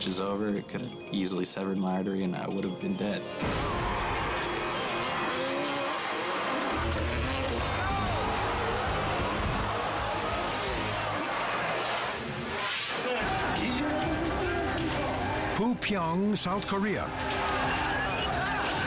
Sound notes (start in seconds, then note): 3.5 engines roaring; 6.7 heavy metal music; 13.1 engaging music; 13.1 protesters clamoring